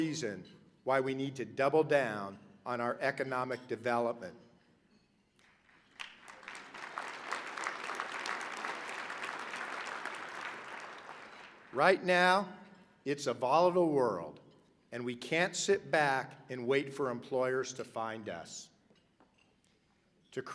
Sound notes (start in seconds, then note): 9.4 applause